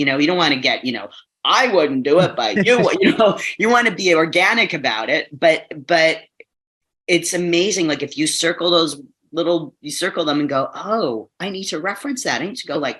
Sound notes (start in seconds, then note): 2.4 both laughing